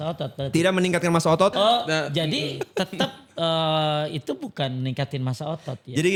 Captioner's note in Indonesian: tertawa